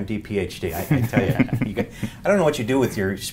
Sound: laughter

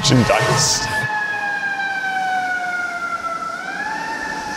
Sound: siren blares

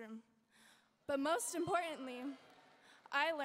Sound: audience members cheering

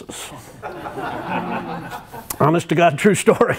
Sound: laughter

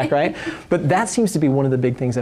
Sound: laughter

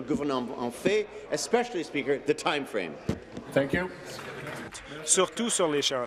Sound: speaking in French

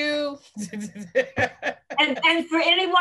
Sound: laughs

